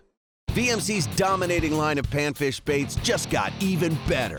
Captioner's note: voiceover